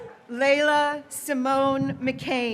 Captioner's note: graduates cheering